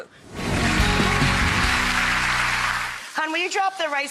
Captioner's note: audience claps